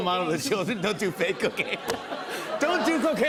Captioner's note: laughter